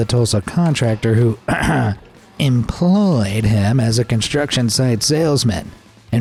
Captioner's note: ahem